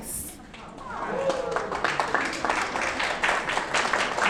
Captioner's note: audience clapping